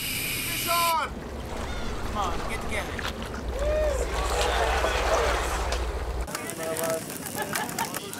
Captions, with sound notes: >> FISH ON! >> COME ON, GET TOGETHER. ( cheering )